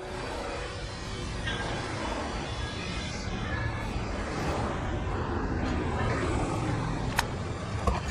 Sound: street noises

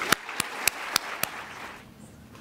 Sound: applause

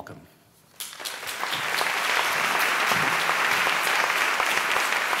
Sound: applause

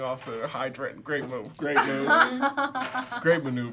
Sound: laughing

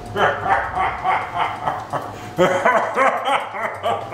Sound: evil laughing

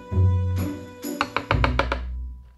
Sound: bowl hitting side of plastic jar

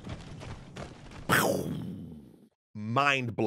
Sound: makes explosion noise

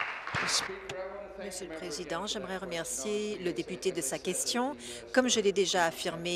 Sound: applause

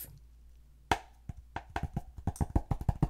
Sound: tap tap tap

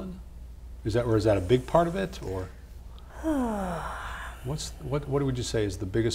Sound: sigh

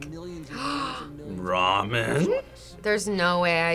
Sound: gasps

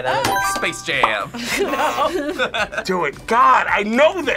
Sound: both laugh; laughs; buzzer rings

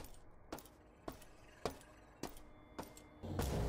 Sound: footsteps

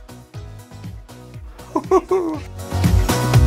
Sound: laugh

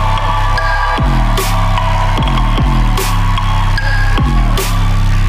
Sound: audience cheering happily; heavy rhythmic music returns

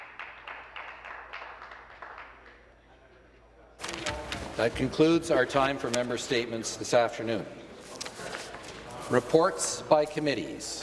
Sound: some Applause

